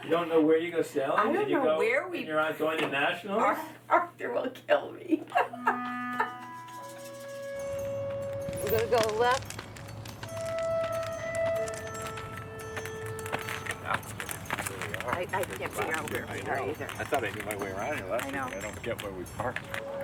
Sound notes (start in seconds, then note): 5.0 laughing; 10.4 canes tapping